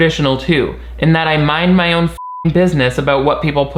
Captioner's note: beep